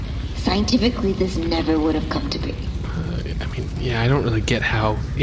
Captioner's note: quietly